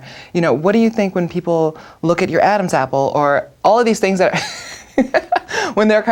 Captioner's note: laughs